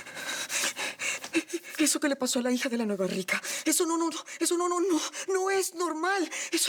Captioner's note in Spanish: Sollozos